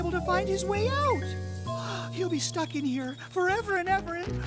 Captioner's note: humming